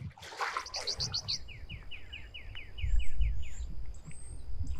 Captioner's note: insects chirping